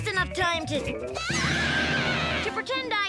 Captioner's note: Tabitha screams